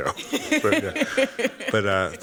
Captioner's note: laughter